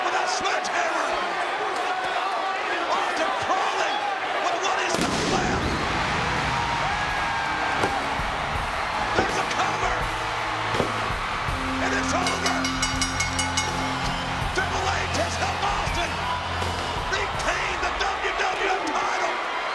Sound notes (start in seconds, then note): 4.9 pyrotechnics exploding; 6.5 crowd cheering; 11.9 bell dinging